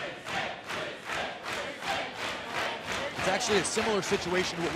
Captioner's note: fans chanting